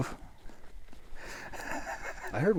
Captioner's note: laughing